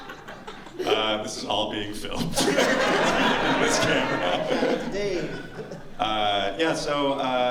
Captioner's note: laughter